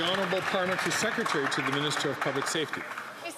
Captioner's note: some Applause